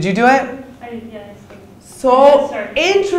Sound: speaks quietly

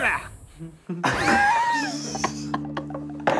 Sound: laughing

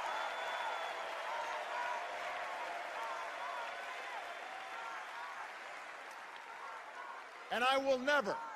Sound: cheers and applause

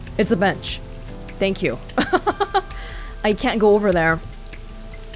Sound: chuckles

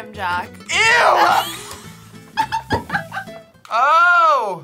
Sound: both laugh

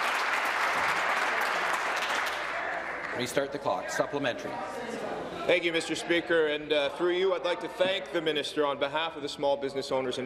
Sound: some Applause

